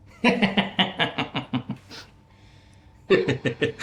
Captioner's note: laughs